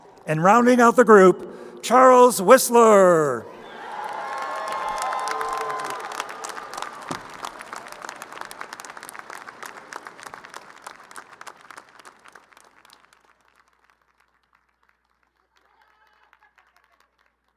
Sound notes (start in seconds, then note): 0.0 crowd cheering; 3.5 crowd cheering and applauding